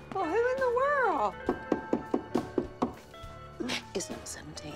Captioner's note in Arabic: طرق اليد